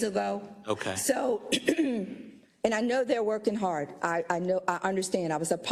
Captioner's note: cough